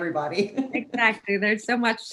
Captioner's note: laughs